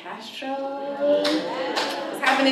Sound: applause

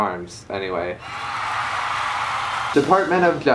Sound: applause

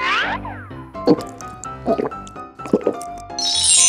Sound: gulping

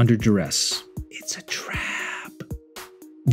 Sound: whisper

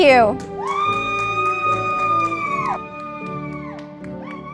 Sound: audience applauding

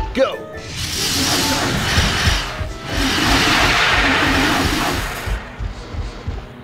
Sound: dinosaur stomp; dinosaur roaring; feet stomping

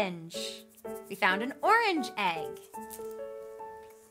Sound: egg rattles

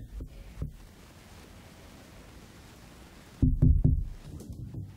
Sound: knocking on door

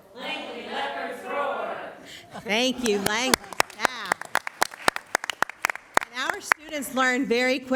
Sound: applause

